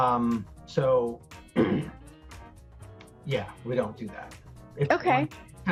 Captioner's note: clears throat